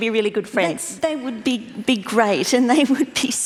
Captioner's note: laughs